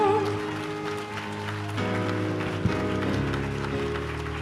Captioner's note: audience claps